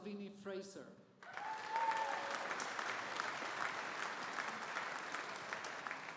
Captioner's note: audience applauding